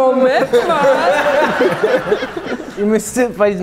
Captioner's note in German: Lachen